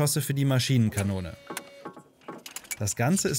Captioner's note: whirring, clattering